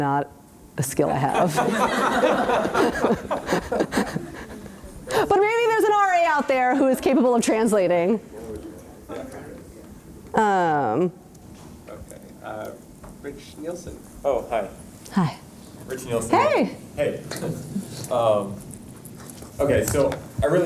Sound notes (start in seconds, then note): 3.2 laughter